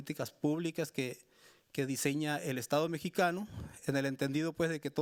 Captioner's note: speaking Spanish continues